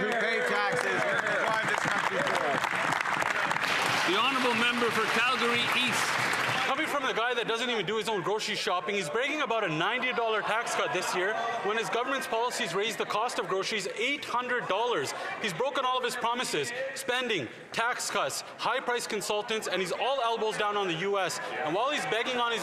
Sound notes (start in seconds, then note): 10.0 some Applause